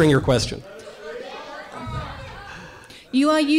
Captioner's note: students shouting in audience